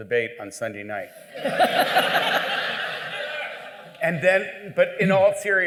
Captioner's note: laughter